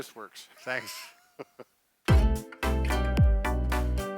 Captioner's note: laughs